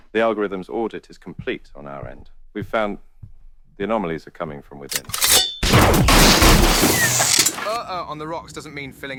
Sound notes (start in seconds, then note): 4.9 weapon blasts; 6.4 books clattering